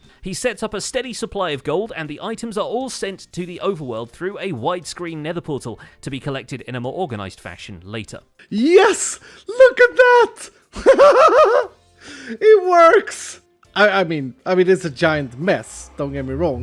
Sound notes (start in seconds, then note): 10.7 excited laughter